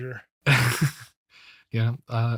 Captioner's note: laughs